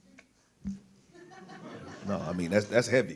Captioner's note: audience laughs